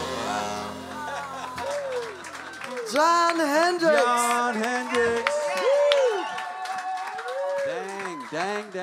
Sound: audience applauds

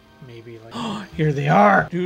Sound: gasp

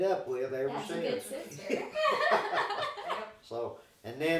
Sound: laughing

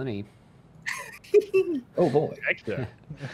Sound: chuckles

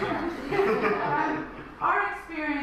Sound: audience laughs

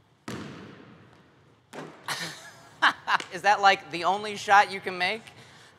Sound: laughter

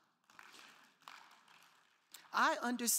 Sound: crowd clapping

